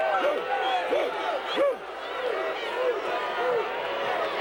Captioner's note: Vader barking; audience cheering